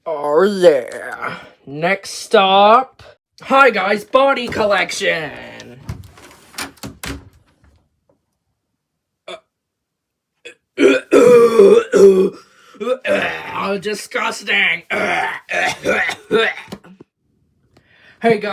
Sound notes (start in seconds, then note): 13.9 agressively vomits